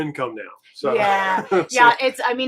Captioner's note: laughing